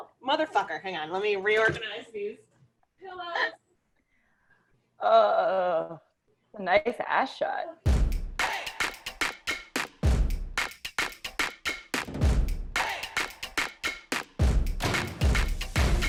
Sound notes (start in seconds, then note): 3.5 laughing; 7.9 upbeat music